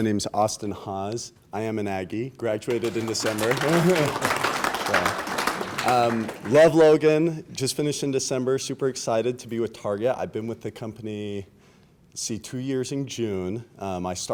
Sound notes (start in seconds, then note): 2.6 applause